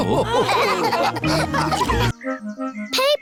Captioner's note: all laughing